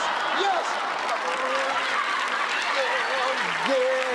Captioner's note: laughter